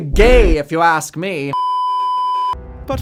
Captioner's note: beeeeeeeeeeeep